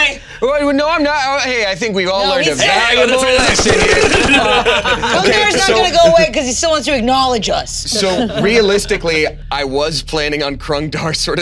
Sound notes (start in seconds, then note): 3.3 machine gun firing